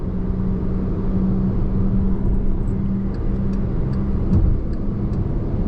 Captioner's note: car engine roaring